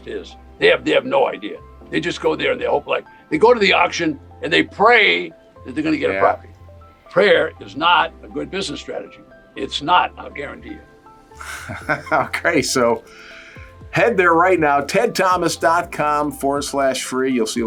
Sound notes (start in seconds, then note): 11.4 laughs